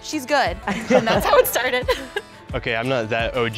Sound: everybody laughs

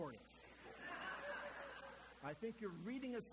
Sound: audience laughter

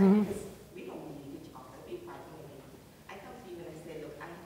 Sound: speaks quietly without mic

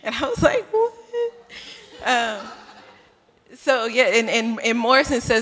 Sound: laughter

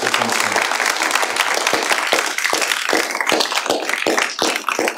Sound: applause

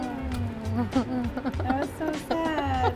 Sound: giggles

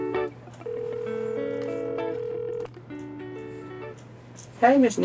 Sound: phone ringing

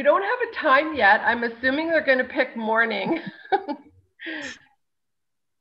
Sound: chuckles

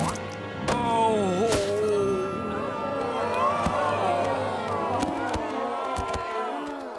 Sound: groaning

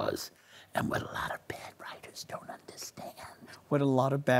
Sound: whispers

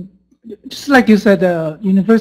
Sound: voiceover

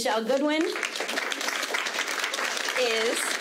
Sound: audience clapping

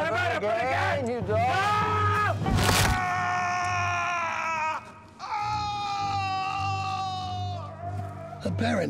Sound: screaming

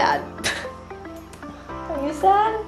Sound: chuckles

